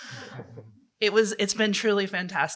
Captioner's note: laughter